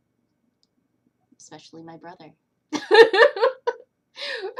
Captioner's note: laughter